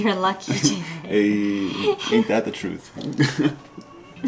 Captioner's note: giggles